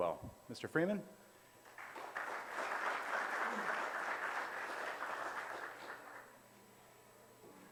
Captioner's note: audience applause